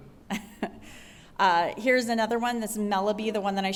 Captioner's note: laughter